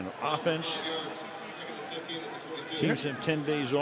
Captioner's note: pa announcement